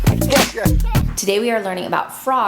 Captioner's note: children laughing